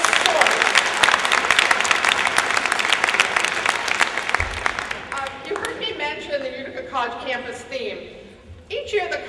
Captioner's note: applause